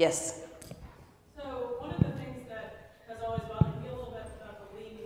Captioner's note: voiceover